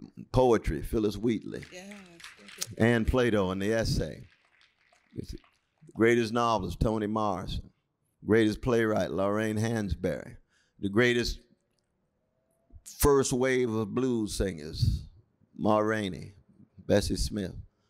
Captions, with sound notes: Poetry, Phillis Wheatley, [APPLAUSE] Ann Plato, on the essay, [APPLAUSE] greatest novels, Toni Morrison, greatest playwright Lorraine Hansberry, the greatest first wave of blues singers, Ma Rainey, Bessie Smith.